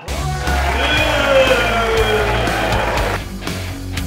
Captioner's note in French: applaudissement / musique hard rock